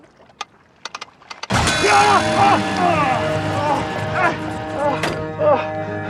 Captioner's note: exclamations